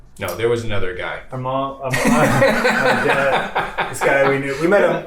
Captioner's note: laughs